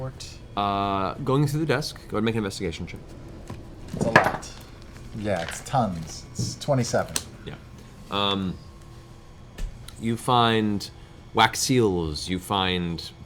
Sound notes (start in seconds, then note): none